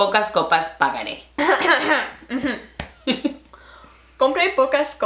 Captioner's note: cough